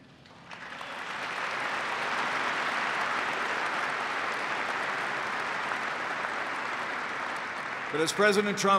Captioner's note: applause